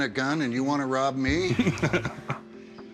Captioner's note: laughs